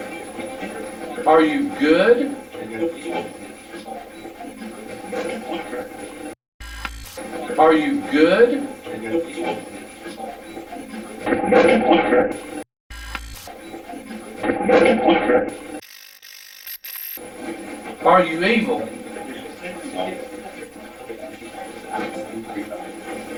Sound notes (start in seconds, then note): 7.1 static fizzing; 9.1 static playback transmitting; 12.3 static fizzing; 17.2 static fizzing; 19.3 static playback transmitting